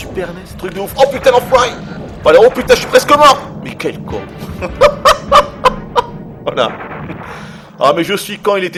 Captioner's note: laughs